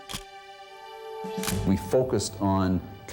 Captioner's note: camera shutter click